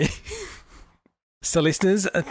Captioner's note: laughs